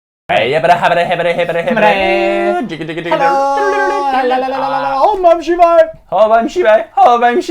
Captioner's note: simultaneously - Making Strange Noises, speaking in tongues